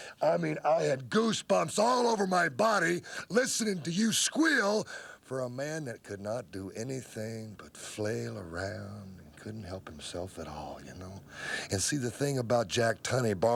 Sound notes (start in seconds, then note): none